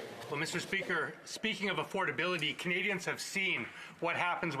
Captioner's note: speaking French